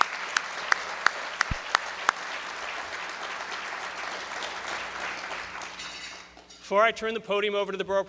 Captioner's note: applause